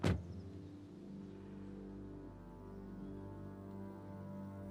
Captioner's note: car door thudding; gentle melodic music